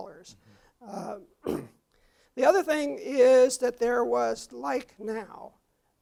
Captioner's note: cough